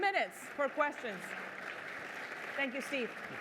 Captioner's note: applause